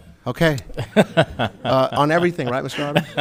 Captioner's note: all laughing